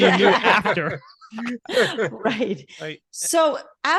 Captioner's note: all laughing